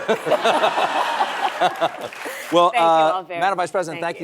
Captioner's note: laughter